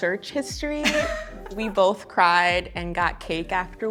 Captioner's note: laughs